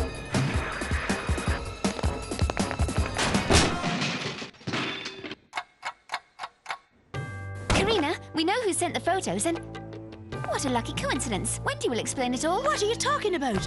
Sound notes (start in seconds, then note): 3.1 door slamming; 5.5 clock ticking